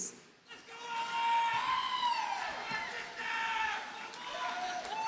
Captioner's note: audience cheers and applauds